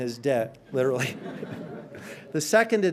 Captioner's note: audience laughing